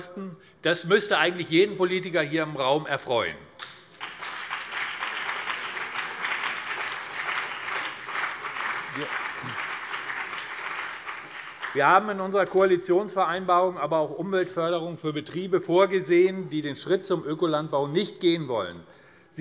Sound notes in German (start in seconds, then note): 3.6 Beifall BÜNDNIS 90/DIE GRÜNEN und vereinzelt CDU